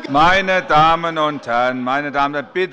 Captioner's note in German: Fortgesetzte Zurufe von der CDU